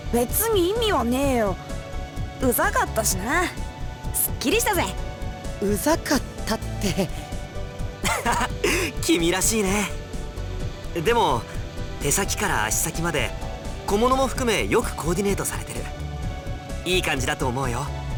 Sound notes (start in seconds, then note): 8.0 chuckle